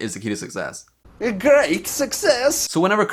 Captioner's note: Borat Voice